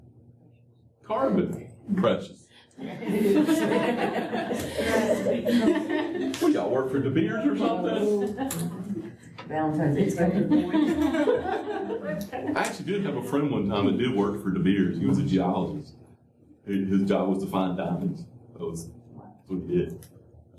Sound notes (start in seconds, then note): 2.8 laughter